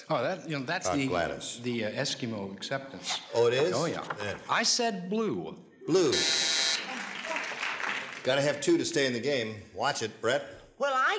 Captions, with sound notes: - That's the Eskimo acceptance. - Oh, it is? - Oh, yeah. I said blew. - Blew. [buzzer] Gotta have two to stay in the game, watch it. Brett?